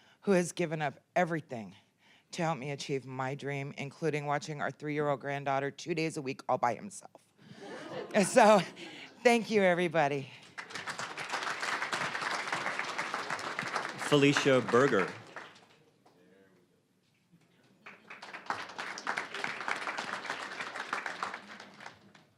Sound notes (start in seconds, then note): 7.5 audience laughing; 10.4 applause; 17.7 applause